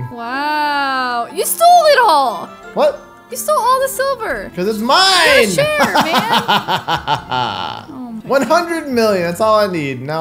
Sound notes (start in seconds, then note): 5.3 laughs maniacally